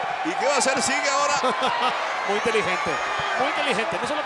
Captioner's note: laugh